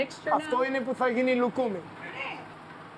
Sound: speaking Greek

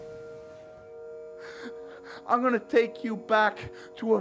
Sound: gasping

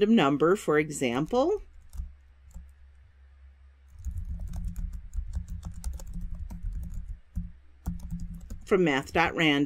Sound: typing

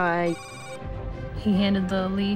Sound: computer noise plays

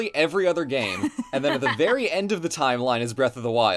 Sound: laughs

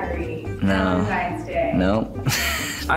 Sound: chuckles

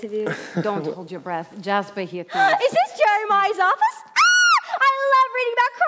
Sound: gasp

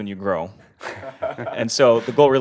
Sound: laugh

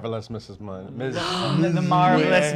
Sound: gasps

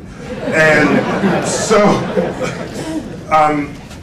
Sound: laughter

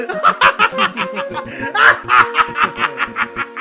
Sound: evil laughing

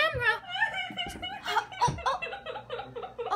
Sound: sobbing

